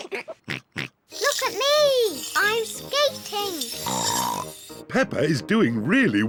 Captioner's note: giggles; snorts